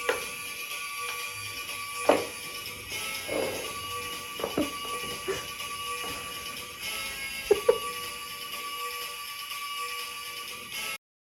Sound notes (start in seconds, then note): 0.3 button clicks and upbeat music plays; 4.1 woman giggles; 7.6 upbeat music plays